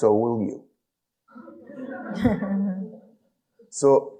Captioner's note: audience laughing